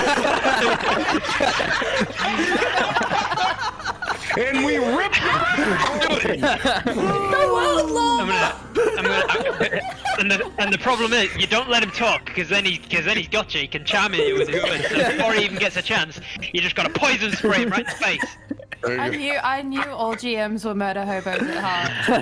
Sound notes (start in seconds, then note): 0.3 chaotic laughter; 5.1 all chattering excitedly